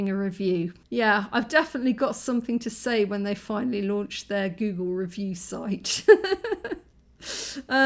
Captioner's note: laughing